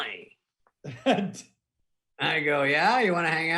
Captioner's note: laughing